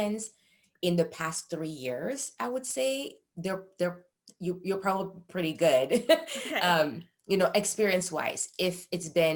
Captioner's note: chuckle